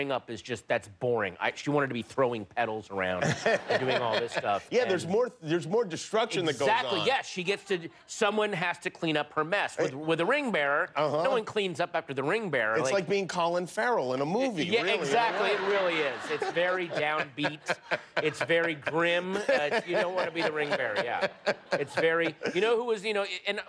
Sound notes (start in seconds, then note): 17.1 laughter